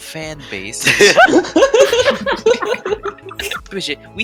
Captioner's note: big laughter